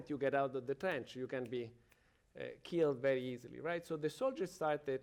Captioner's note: snaps fingers